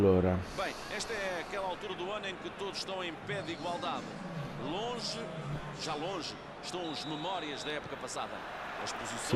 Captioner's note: applause